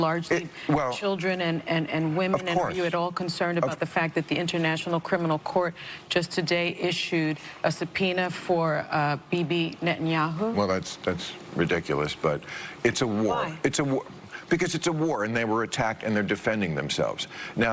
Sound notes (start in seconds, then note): none